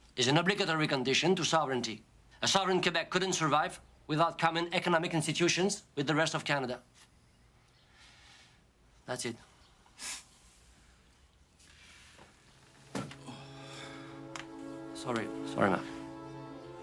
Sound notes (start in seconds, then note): 13.0 sighs; 13.2 tense music